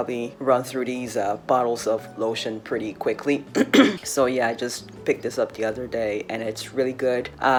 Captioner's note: clears throat